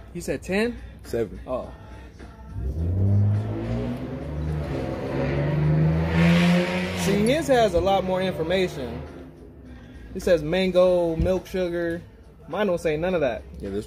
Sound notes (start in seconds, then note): 2.4 car engine revving